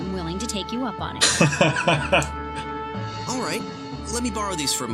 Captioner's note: laughs